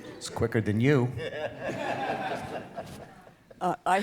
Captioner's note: laughter